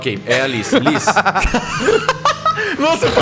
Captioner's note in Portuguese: Todos riem